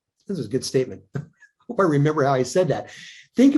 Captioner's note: chuckles